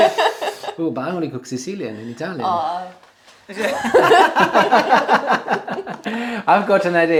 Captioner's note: ahhhh